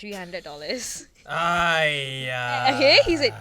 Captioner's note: sighs